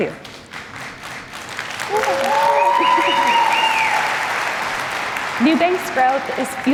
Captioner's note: applause